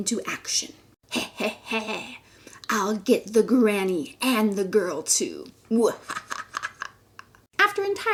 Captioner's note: evil laughter; evil Laughter